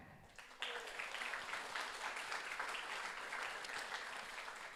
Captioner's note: audience applauds